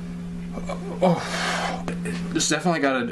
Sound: grons

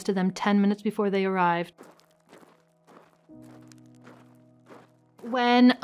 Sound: footsteps walking on dirt

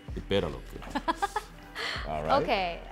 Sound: laughs

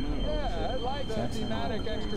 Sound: radio droning; spacey music; radio Voice

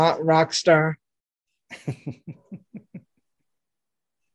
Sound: laughing

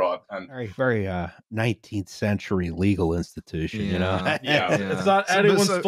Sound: laughs

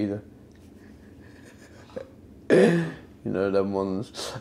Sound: laughs

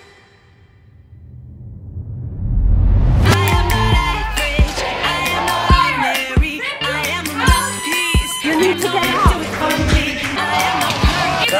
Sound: protesters shouting, blowing airhorns

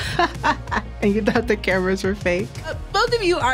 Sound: laughs

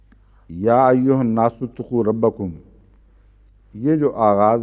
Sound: Arabic

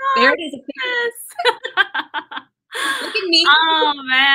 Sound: laughter

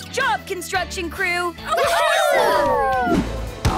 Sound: cheering

